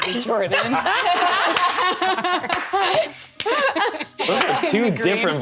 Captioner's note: laughter